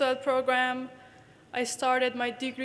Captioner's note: none